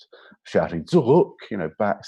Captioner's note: speaks in foreign language